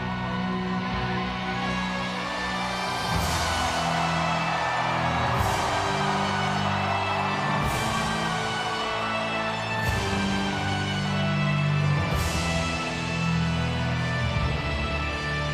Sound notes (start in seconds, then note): 0.4 ominous music continues; 3.5 audience cheers